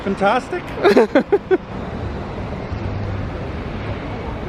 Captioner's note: laughs